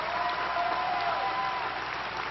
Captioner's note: applause